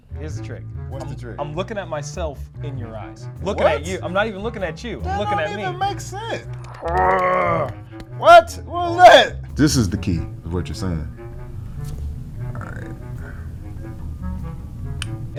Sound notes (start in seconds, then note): 3.4 playful music; 6.7 both groans; 11.5 playful music